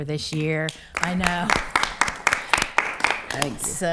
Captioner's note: attendees applauding